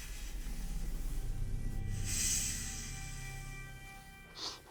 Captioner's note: snake hissing